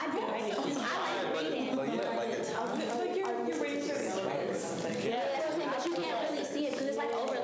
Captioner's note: students chatter